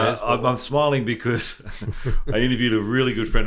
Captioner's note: laughs